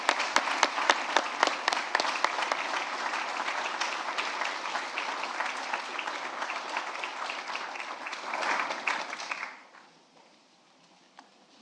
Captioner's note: applause